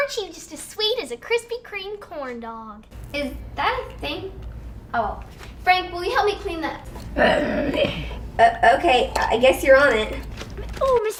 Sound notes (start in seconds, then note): 7.1 Frank growls